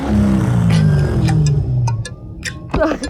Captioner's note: engine rumbling